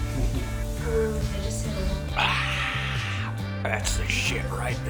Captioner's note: sighs